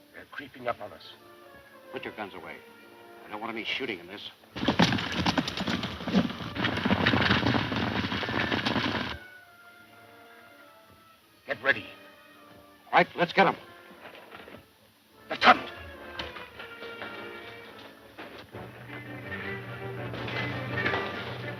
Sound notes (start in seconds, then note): 4.4 horses galloping; 18.5 dramatic music